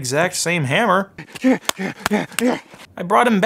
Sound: grunting and hammering

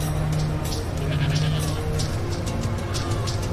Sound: sheep baaing

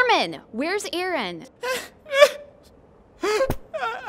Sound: crying

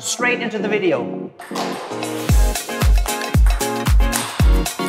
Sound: uptempo music; claps hands

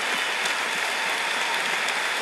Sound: applause

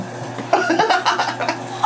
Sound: laughing

